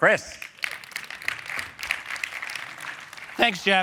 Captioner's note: applause